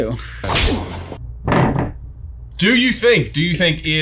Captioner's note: fist thuds